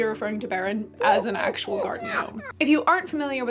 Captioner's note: in a freaky gnome voice